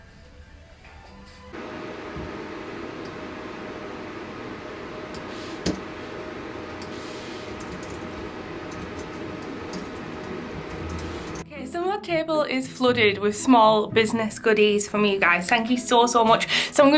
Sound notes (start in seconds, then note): 5.4 keyboard clicking